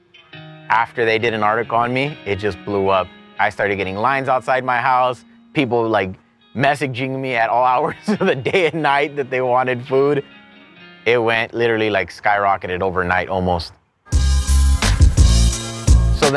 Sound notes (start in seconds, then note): 7.8 laughs; 14.1 upbeat R and B music